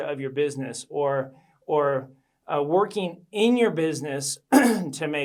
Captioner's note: clears throat